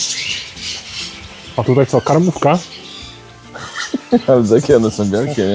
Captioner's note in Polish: śmiech